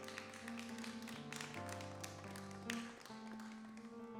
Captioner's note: applause